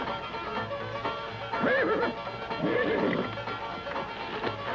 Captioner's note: horse neighing